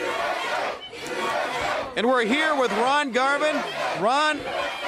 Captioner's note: crowd cheering